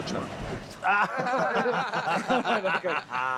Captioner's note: all laughing